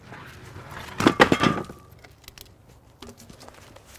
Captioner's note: log clunking